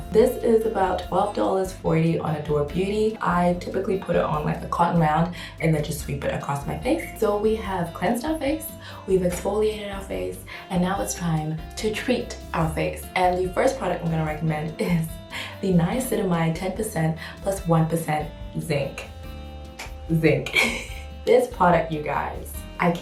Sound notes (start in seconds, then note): 19.7 clicks tongue; 20.5 laughs